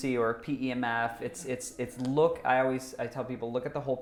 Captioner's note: none